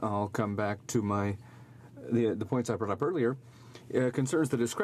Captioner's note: speaking french